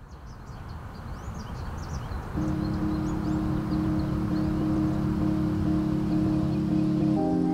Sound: birds chirping

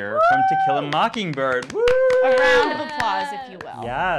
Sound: cheering; applauding

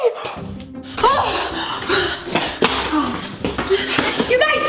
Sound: gasping

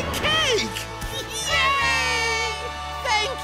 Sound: cheering

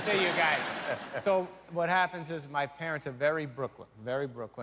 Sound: cheers and applause

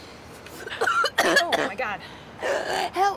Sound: huge cough

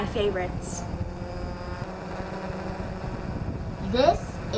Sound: buzzing sound

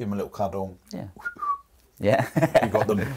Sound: whistles; laughs

